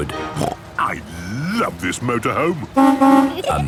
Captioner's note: honking